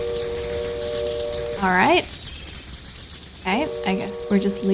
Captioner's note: long train whistle; long train whistle